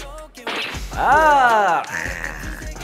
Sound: bang

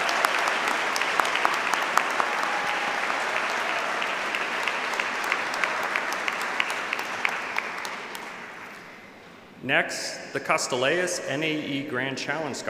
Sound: applause

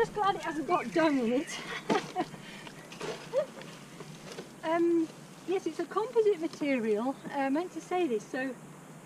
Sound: laughing

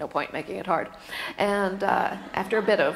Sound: laughter

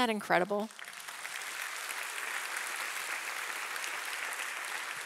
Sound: audience applauding

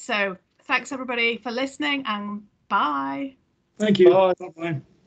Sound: laughs

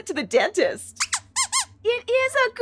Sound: squeaks squeaks

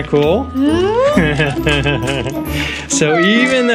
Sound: laughs

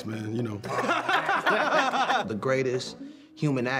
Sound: laughter

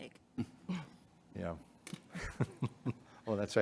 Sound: chuckles; chuckling

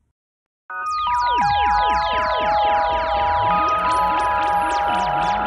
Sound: spacey sound effects

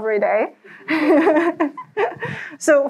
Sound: laughs

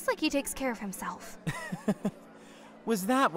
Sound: laughs

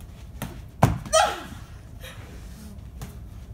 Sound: cries out

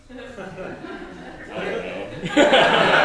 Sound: class laughs; laughs

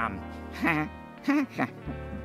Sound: chuckles

